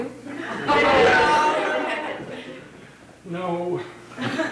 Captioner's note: audience laughing